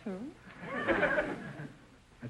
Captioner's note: audience chuckling